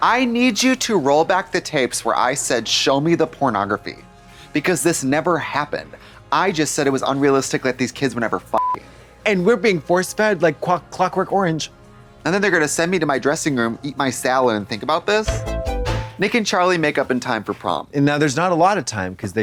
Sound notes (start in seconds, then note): 8.6 beep; 15.0 synth bop